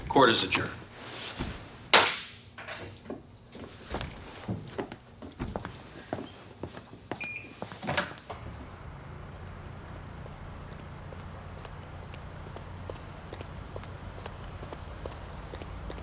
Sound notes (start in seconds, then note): 2.0 gavel banging; 5.3 footsteps clacking; 7.2 lock beeping; 10.6 footsteps clacking